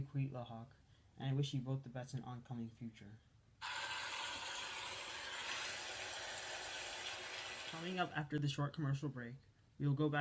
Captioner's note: applause